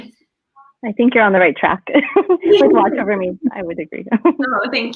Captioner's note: laughing